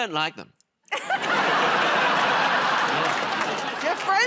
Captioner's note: laughter